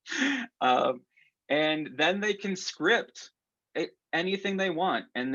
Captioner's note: laughter